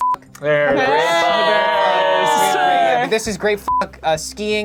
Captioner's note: beep; all cheering; beep